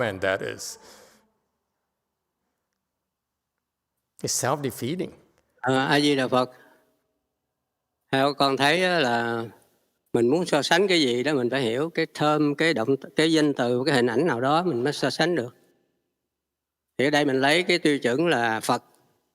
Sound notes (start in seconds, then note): 7.6 speaking Vietnamese